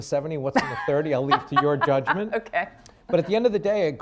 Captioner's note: laughs